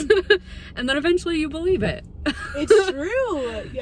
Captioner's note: laughs